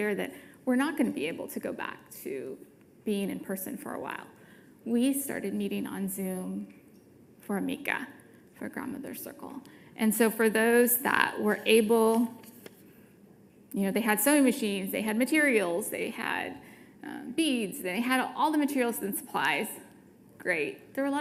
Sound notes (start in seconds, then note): 6.8 speaking foreign language